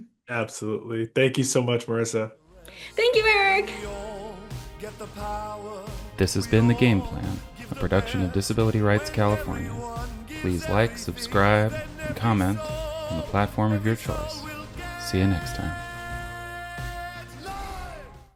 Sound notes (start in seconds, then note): 4.3 triumphant music fades in; 6.0 voiceover